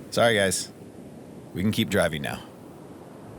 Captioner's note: none